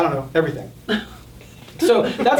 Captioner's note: group laughing